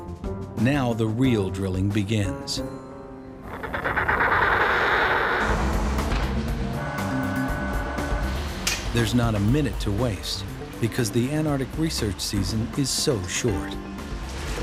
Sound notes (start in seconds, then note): 3.4 wind and penguin call; 5.8 drilling sounds